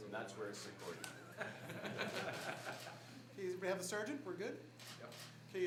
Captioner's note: laughter